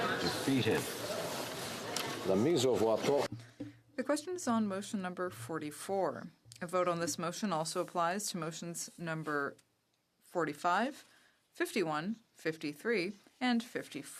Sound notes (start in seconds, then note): 7.3 speaking French